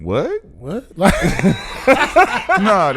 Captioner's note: laughing